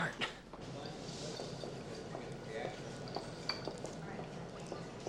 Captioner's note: group chattering